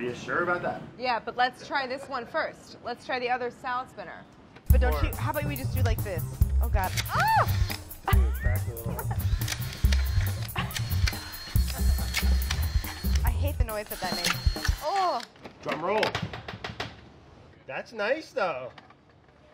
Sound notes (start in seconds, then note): 8.0 laughs; 9.7 drill buzzing